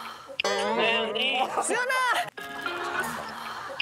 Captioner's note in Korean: 휴대전화 통화 연결음